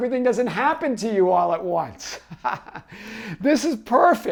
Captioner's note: laughs